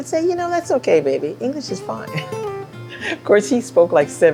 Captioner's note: laughs